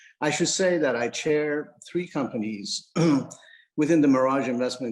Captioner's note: clears throat